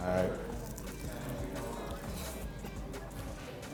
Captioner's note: chomping